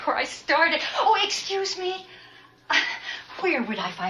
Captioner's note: woman in purple dress laughs